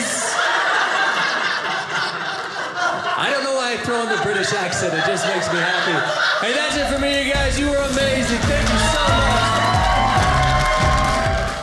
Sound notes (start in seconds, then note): 0.3 audience laughing; 9.2 audience cheering